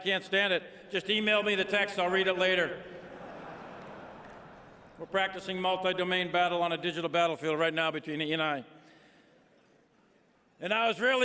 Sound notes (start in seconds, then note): 2.9 laughter